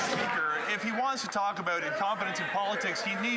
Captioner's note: some Applause